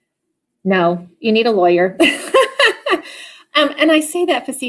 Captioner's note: laughs